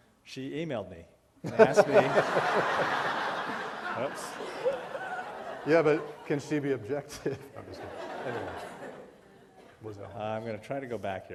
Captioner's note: laughter